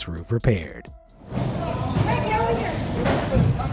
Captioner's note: wind blowing